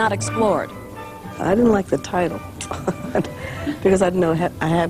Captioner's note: laughs